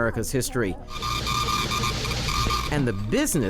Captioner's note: machine beeping